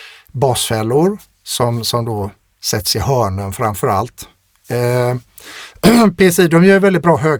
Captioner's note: clears throat